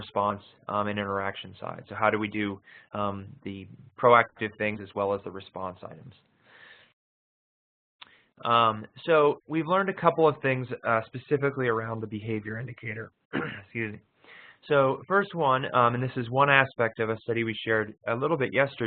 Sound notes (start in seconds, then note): 13.3 cough